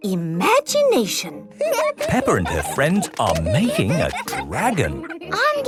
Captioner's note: giggling